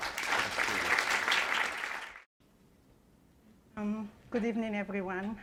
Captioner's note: applause